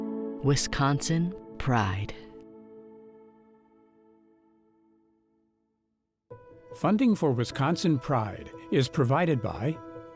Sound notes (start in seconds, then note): none